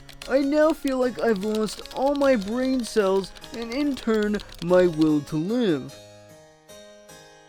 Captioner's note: normal voice